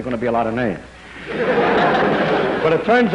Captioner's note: laughter